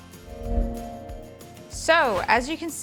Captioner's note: logo whooshing